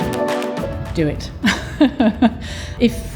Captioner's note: laughs